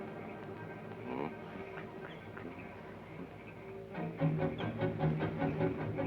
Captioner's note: Joshua hums melodically